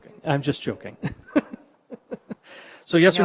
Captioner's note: mayor chuckles